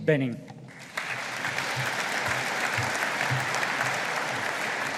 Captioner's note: audience applauding